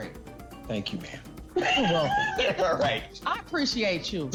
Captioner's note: laughs